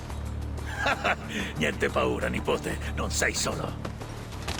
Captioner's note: laughs